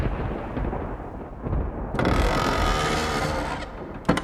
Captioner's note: wood creaks